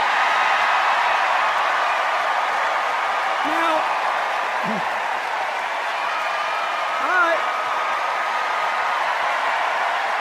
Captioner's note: sustained applause and cheers; applause and cheers